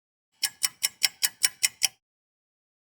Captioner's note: sound of a ticking clock